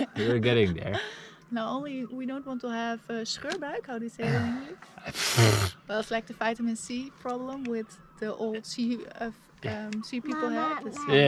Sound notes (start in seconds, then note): 3.6 foreign language; 5.0 scoffing